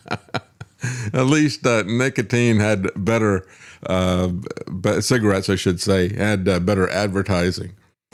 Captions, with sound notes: (Laugh) At least nicotine had better cigarettes, I should say, had better advertising.